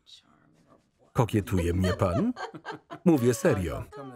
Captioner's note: Betty laughs